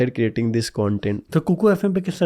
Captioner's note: speaking hindi